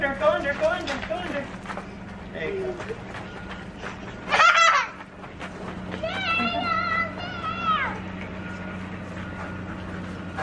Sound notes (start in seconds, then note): 4.4 laughing; 6.1 yelling